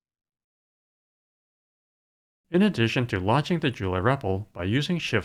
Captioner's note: none